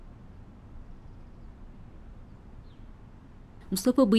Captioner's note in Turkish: Sessizlik